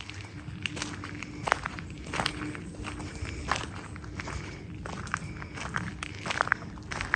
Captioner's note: wind howling